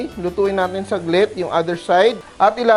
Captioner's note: sizzle